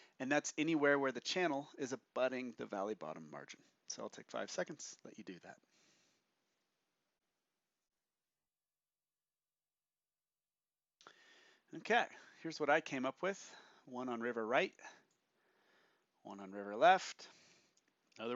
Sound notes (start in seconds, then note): 6.2 silence